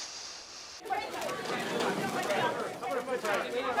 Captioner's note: chatter